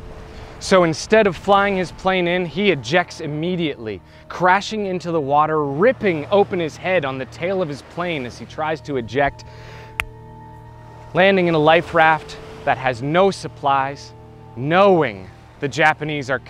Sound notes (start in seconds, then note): 9.8 finger snap